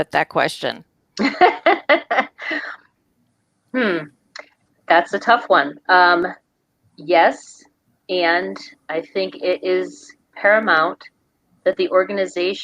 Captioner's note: laughs